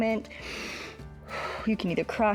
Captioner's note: inhales and exhales